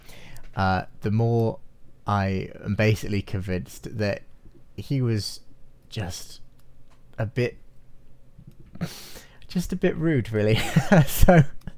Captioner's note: chuckles